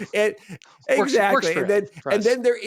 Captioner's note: laughs